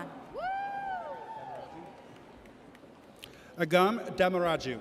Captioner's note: audience cheers